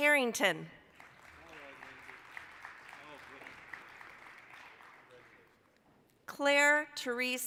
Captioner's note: applause